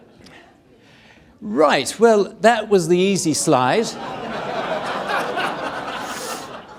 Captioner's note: audience laughing